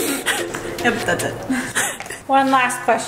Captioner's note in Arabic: كلاهما يضحك